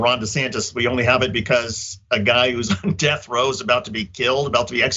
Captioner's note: laugh